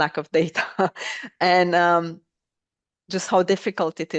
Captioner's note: laughter